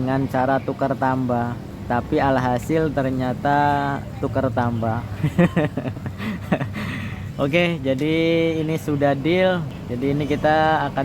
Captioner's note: laughs